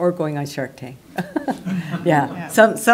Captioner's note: laughter